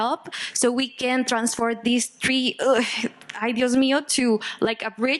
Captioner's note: speaking Spanish